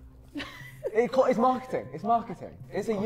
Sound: laughing

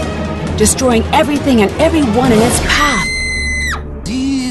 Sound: girl screams

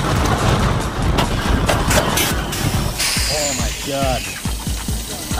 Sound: brake run hiss

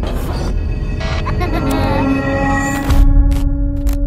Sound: child laughs

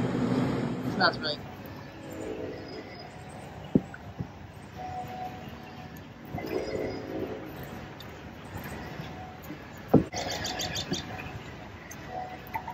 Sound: sounds of nature, birds chirping

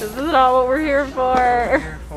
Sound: laughs

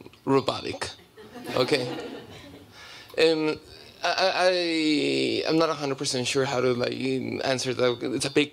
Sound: laughter

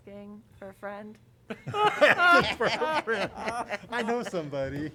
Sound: laughter

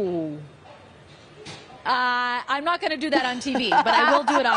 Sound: laughter

